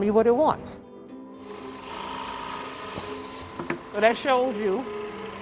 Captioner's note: drills whirring